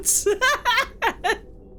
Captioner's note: laughs